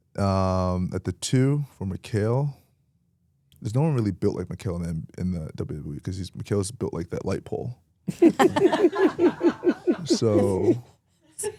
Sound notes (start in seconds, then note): 8.1 laughs